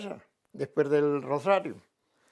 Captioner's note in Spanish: ríe